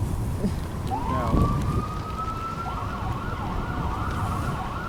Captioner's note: sirens wailing